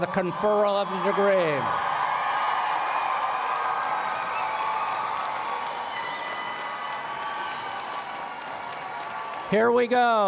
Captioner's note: applause